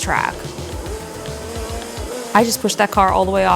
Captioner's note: car engine roaring